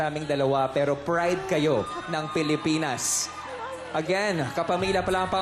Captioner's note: crowd cheering